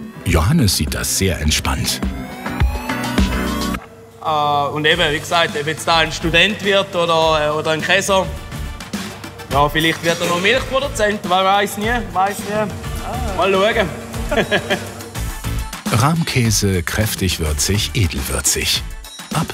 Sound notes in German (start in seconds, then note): 13.7 lacht